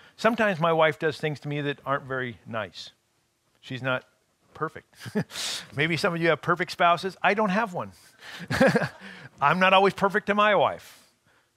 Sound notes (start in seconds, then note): 5.0 chuckling; 8.4 laughing